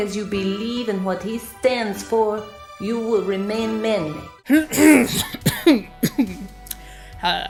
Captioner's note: choking and coughing